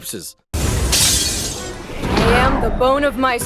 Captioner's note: glass shattering